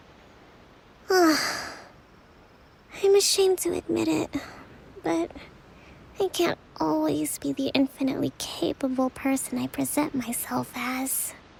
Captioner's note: sigh